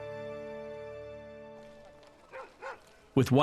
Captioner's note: dog barking in distance